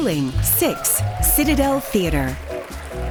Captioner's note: applause